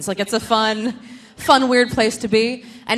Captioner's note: none